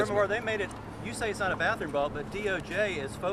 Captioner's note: voiceover